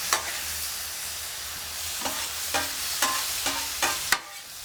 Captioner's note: sizzling sounds